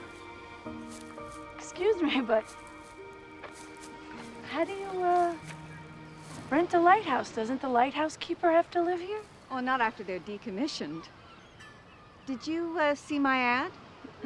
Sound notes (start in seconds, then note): none